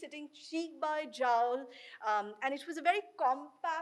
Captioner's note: speaks in foreign language